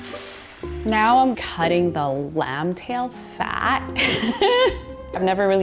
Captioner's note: laughs